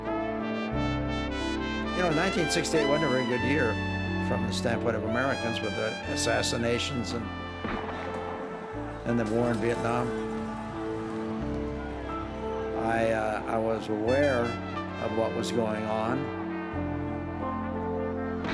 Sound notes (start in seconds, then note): 10.3 crowd clamoring